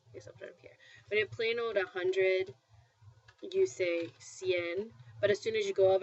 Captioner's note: spanish